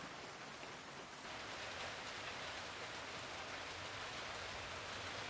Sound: rain hitting metal roof

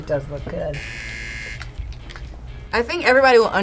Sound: buzzer rings

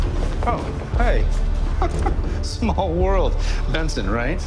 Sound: chuckles

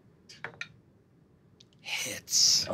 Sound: dice clattering

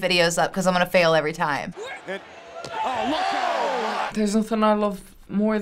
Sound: announcers exclaiming

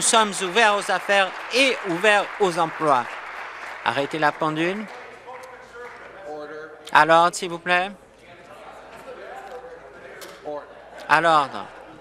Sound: applause

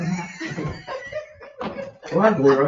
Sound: people chuckle

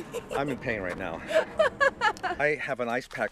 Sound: Lindsey laughs

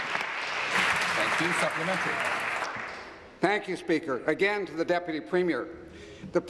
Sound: applause

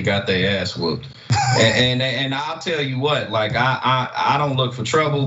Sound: laugh

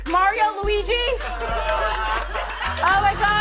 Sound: laughter

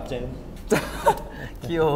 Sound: laughing

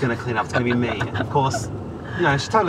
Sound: laughs

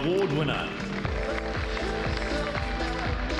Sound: applause

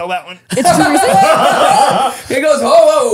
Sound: they laugh

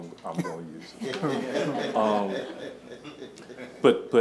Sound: laughing

